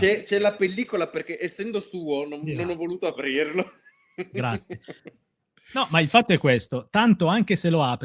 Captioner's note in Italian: risate